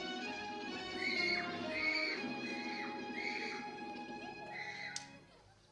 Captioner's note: a kid screaming